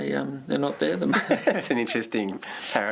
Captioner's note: laughter